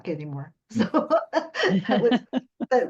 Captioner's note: laughter